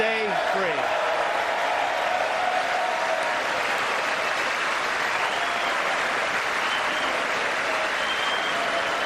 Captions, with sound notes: GOVERNMENT COERCION, DOMINATION, AND CONTROL. ( APPLAUSE ) WE ARE BORN FREE, AND WE WILL